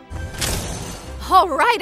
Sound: metals clanking

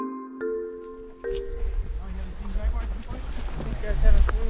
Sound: forest sounds, footsteps

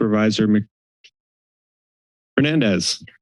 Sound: silence

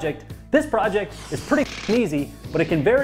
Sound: jackhammer rattles

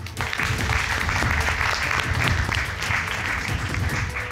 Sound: audience applauding

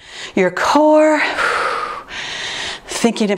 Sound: exhales

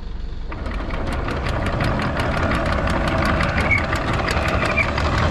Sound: motor clanking

